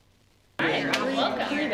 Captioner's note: crowd noise